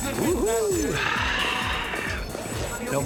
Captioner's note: sighs